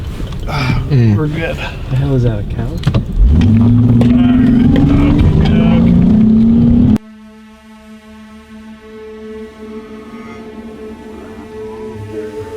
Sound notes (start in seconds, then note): 4.5 engine revs; 7.3 suspenseful music